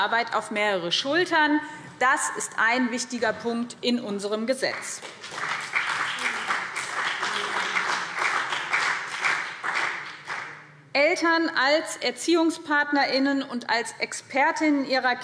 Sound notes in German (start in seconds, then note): 4.7 Beifall BÜNDNIS 90/DIE GRÜNEN und CDU